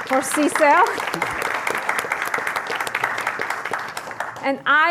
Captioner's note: applause